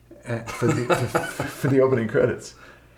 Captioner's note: chuckles